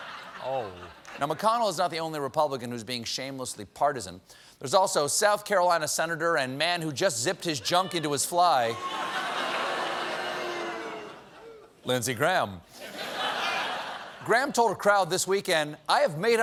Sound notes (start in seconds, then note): 0.0 laughter; 12.8 laughter